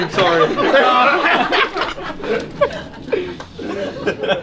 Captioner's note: all laughing